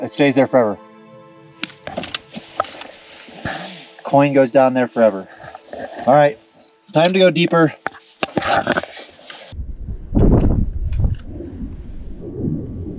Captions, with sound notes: it stays there forever. (coin jangling) Coin goes down there forever. All right, time to go deeper. (wind blowing)